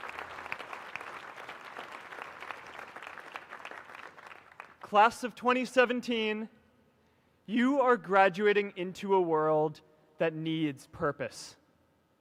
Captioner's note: applause